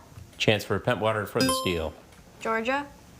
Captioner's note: buzzer chiming